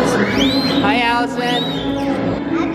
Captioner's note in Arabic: صافرة